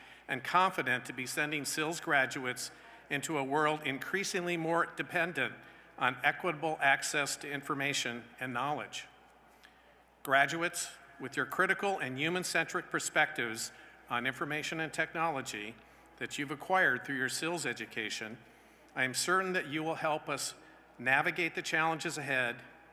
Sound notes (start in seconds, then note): none